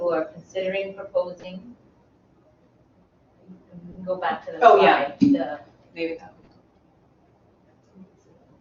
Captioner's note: co-presenters speaking among themselves